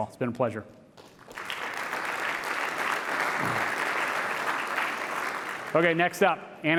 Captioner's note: applause